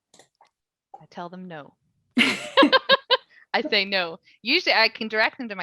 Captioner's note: laughing